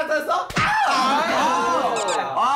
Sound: slap!

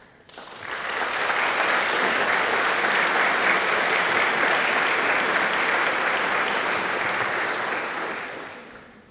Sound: applause

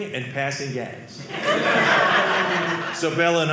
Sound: audience laughing

